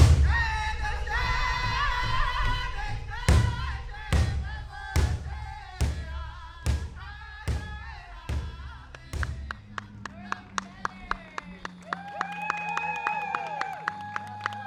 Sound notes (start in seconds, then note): 10.3 crowd cheering